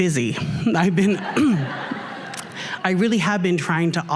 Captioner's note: laughter